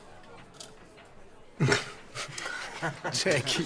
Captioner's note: chuckle